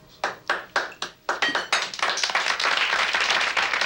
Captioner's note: people clapping